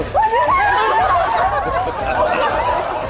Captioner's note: all cheer